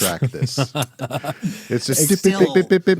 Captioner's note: laughing